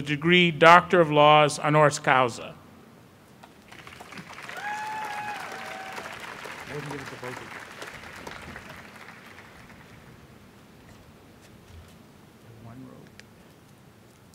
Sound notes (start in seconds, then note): 3.6 applause